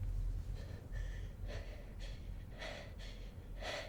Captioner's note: struggles to catch breath